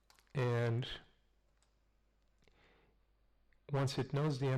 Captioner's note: pause